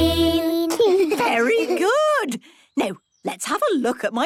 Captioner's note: children giggling